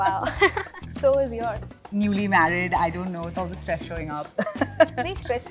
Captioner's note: laughter